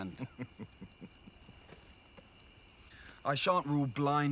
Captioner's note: Kjartan laughs